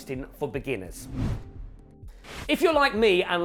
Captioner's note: transition whooshing